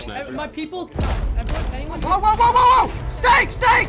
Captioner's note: yells